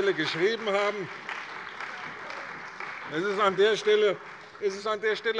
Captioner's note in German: Beifall bei der CDU